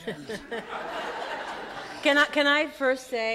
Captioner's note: audience laughs